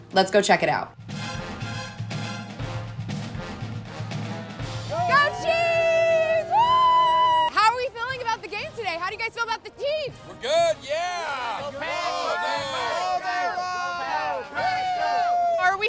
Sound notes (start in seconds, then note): 1.3 upbeat music; 4.8 everyone cheering